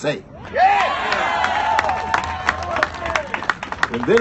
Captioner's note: cheers and applause